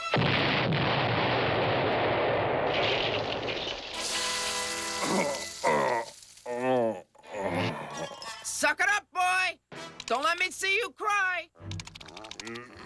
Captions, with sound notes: [boom] [groaning] SUCK IT UP, BOY! DON'T LET ME SEE YOU CRY!